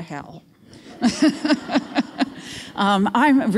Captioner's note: laughs